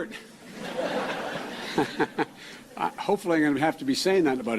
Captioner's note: chuckling